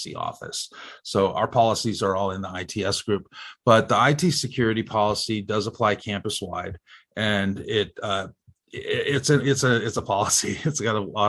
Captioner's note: chuckles